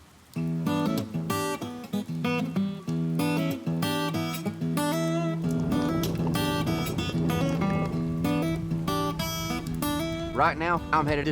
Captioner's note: rain falling